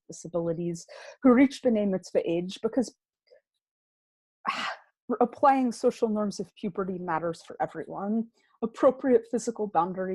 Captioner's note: gasp